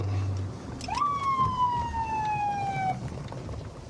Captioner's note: sirens blaring